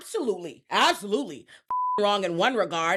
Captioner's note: beep